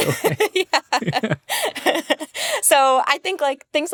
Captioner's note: laughing